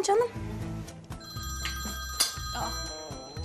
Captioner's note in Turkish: Telefon zili sesi